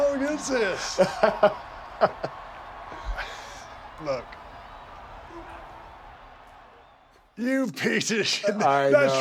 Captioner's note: laugh